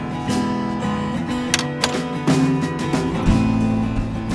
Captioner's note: sound of opening gate; sound of gate closing